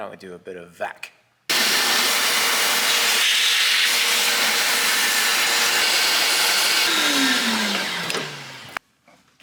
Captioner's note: gratuitous and satisfactory vacuuming ensues